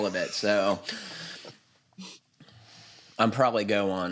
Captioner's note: laughs